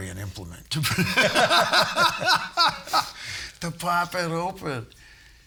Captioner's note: all laughing